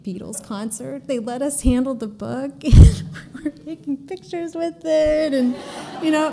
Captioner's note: laughter